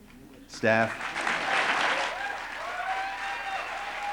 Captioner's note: applause